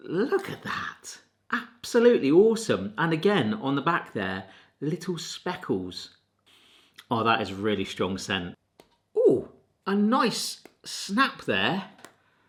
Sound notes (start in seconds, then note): 6.5 sniffing